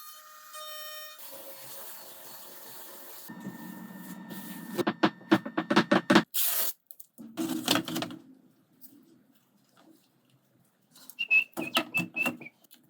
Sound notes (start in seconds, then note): 1.2 sanding; 4.6 wood rattling; 6.3 tape ripping; 11.1 whistling